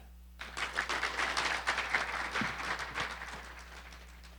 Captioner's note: audience applauding